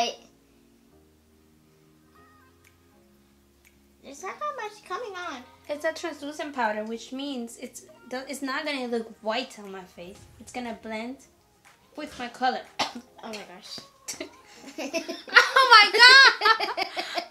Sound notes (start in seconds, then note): 12.7 coughs